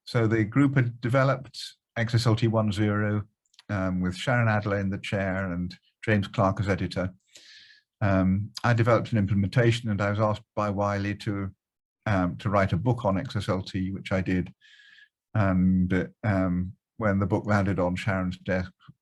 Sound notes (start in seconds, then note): none